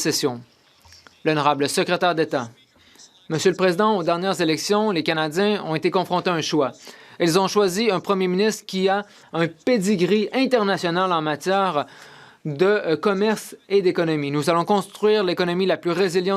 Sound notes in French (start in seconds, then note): 7.9 voix de l'interprète